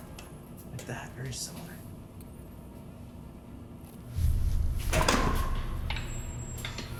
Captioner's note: door creaking